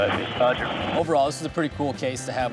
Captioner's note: man On Radio